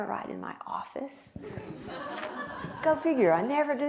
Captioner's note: laughter